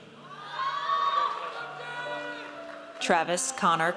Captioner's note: audience cheers